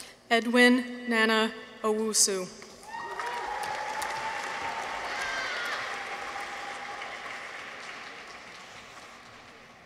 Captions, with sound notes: Edwin Nana Owusu. -(people cheer) -(audience applauds)